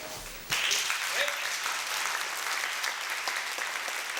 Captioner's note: applause